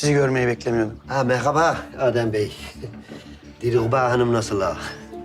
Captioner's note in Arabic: يضحك